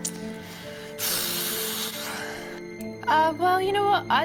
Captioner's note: sighs heavily